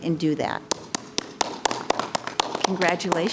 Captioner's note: clapping